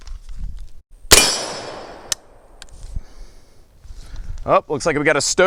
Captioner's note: gunshot